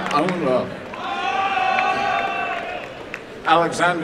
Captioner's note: applause and cheering